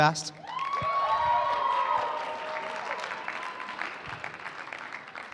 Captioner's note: cheering